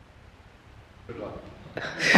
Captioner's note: laughter